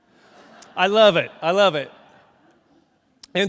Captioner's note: crowd laughs